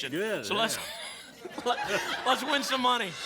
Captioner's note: laughter